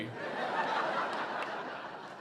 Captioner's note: audience laughing